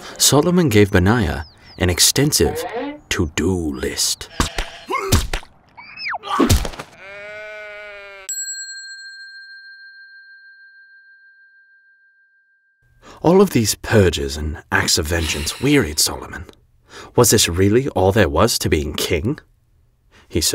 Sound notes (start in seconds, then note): 4.9 man gasps and falls dead; 6.9 sheep bleats; 8.3 bell dinging